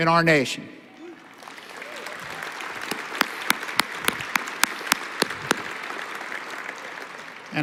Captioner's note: applause